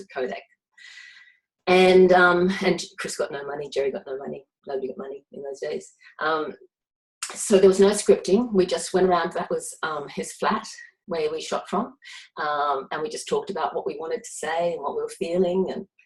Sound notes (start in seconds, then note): none